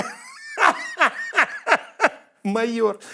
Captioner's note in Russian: смеется